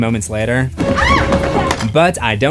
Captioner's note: screams